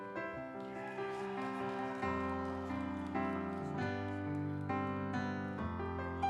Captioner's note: instrumental music; audience cheering